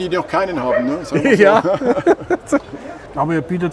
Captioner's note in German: lacht